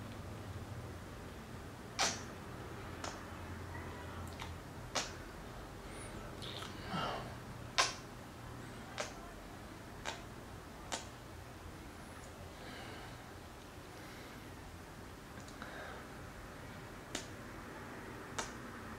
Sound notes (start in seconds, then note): 10.9 kiss; 15.6 kind of moan breath